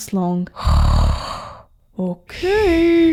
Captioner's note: snoring!